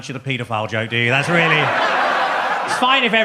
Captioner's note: audience laughs